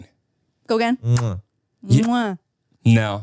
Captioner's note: Manny smooches; smooches